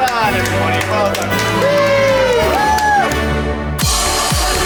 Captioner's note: class cheering